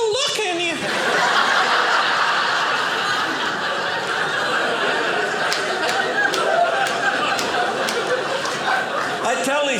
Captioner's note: audience laughing